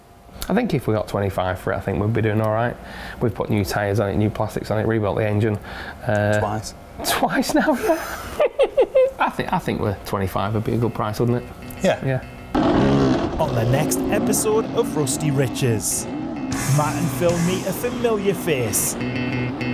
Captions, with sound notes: I think if we got £2,500 for it, I think we'd be doing all right. We've put new tires on it, new plastics on it, rebuilt the engine. Twice. Twice now? [LAUGHS] I think with £2,500, it'd be a good price, wouldn't it? Yes. On the next episode of Rusty Riches, Matt and Phill meet a familiar face